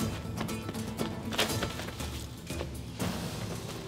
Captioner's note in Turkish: Ayak sesleri; Düşme sesi